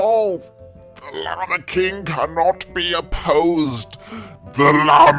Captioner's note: now demonically